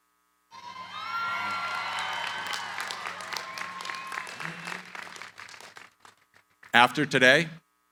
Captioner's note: cheering, applause